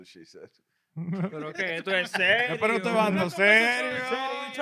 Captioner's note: speaking In Foreign Language